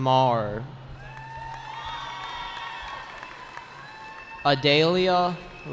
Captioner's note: cheering